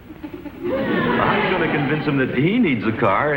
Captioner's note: audience laughs